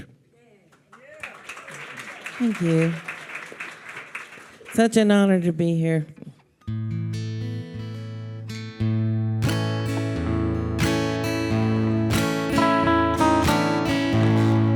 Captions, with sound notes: - Yeah. - Yeah. (attendees cheering) - Thank you. Such an honor to be here. (peaceful music)